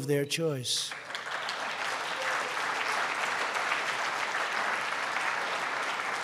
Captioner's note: applause